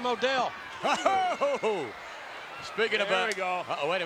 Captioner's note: Vince laughs